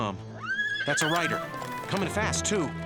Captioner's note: horse whinnies